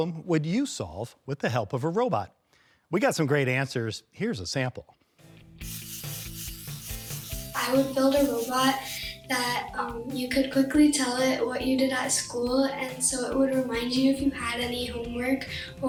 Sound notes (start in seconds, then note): 5.6 robots whirring